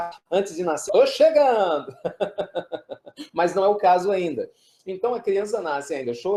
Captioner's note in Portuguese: risos